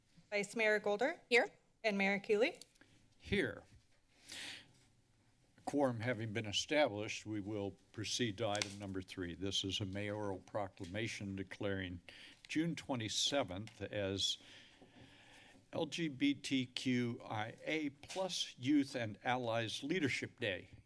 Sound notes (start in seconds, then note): 4.2 inhales; 14.4 breathes